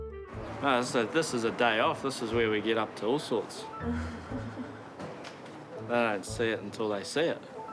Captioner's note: gentle chuckling